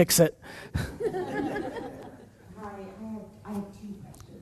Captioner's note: audience laughs